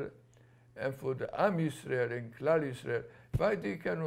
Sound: non-english

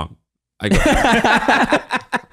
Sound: laughing

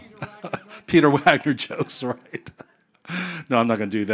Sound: chuckling

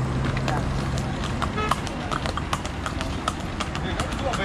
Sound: hoofbeats clopping

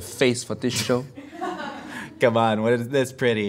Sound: laughing

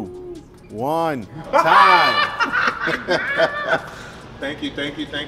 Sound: laughs

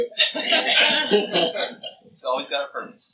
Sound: laughter

